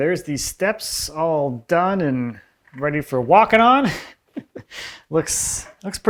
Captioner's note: laughs